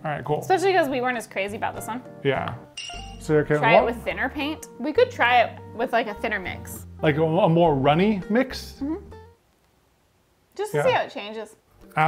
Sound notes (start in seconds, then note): 2.7 chime rings